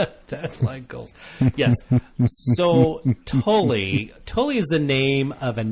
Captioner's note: DJ laughs; laughs